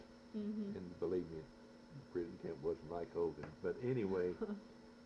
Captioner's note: laughs